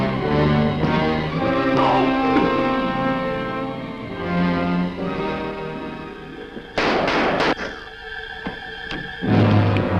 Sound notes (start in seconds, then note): 6.7 gun firing